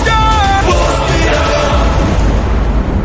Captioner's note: thunder